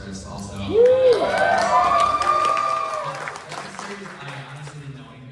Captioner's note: applause